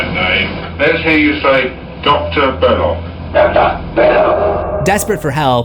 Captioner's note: Demonic voice